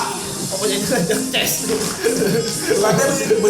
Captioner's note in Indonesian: clap hand